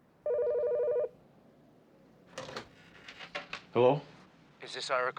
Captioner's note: phone ringing